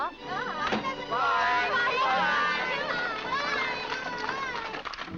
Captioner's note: family shouting goodbyes